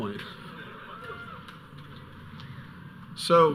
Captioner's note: audience laughing; audience member cheers